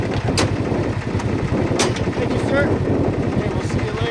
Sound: car door slamming

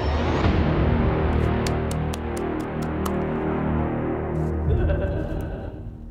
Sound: Pennywise chuckles creepily; claps

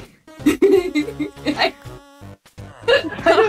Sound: laughs

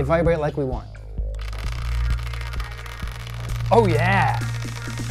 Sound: vibrating

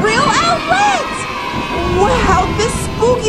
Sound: children cheering

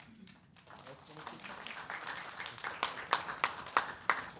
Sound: people clapping

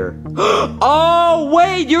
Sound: Mario gasping

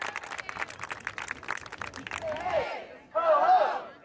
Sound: crowd clapping

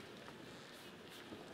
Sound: none

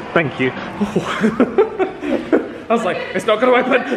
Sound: laughs

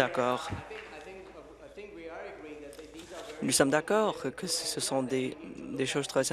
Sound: applause

